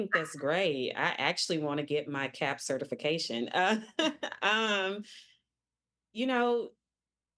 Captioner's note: chuckling